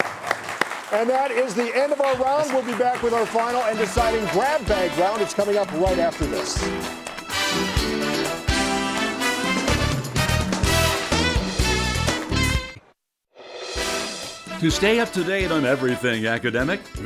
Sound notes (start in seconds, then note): 6.8 upbeat music; 7.9 audience applauds; 7.9 upbeat music